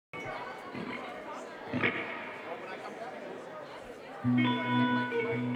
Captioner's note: crowd speaks faintly; tranquil music